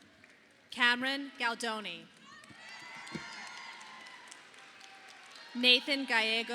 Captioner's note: audience applauding